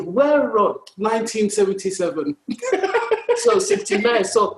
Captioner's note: laughs